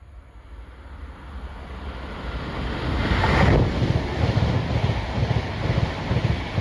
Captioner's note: train noise